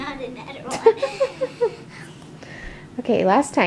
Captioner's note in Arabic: يضحك